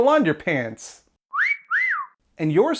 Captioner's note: wolf whistle